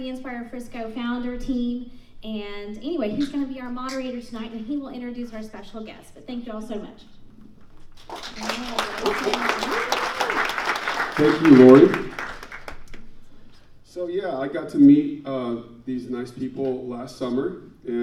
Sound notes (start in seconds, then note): 7.9 audience applauds